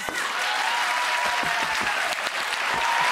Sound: applause

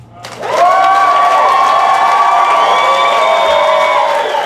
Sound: audience cheering

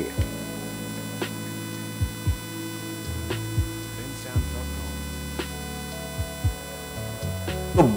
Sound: laser buzzing

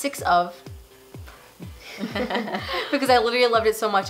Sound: laughing

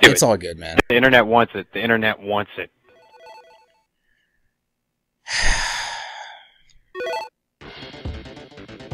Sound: long arduous sigh

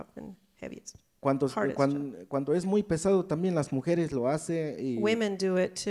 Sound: speaks in foreign language

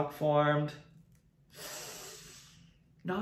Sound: sighs

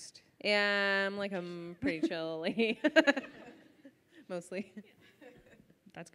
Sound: laughs

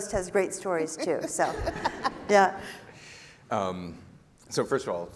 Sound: laughing

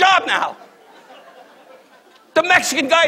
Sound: audience laughs

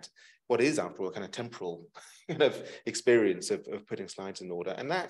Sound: chuckles

